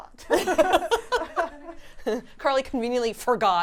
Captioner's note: laughing